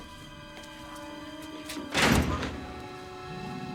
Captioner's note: door Clanking Shut